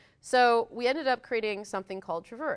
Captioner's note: none